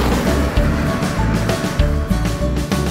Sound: vehicle sound: airplane take off

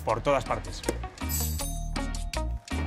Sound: doorbell

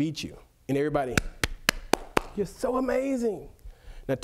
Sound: claps

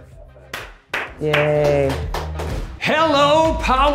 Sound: clapping

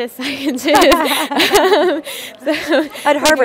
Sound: laugh

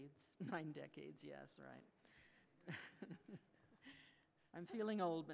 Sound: laughs

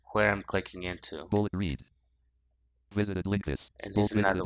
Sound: screen reader voice

